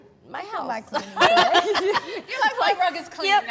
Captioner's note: all laugh